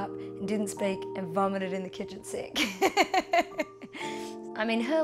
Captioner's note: laughs